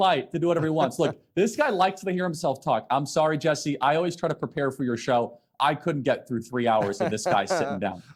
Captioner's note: laughter